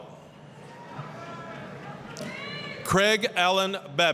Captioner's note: applause, cheering